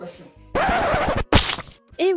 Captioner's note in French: Son de dérapage de vinyl; Splash